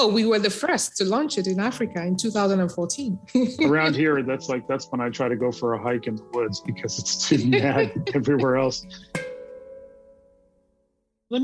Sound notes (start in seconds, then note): 3.3 laugh